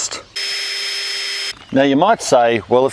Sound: drilling

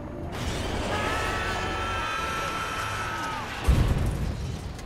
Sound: all screaming

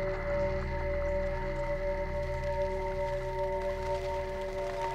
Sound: wings fluttering

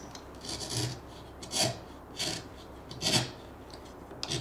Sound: chisel scraping

